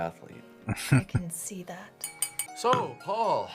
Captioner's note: chuckling